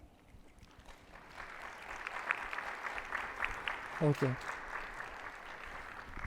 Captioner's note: attendees applauding